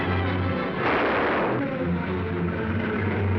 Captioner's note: gun firing